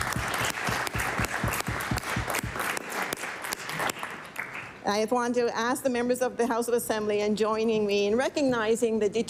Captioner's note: applause